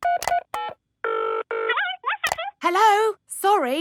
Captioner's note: dials phone; on phone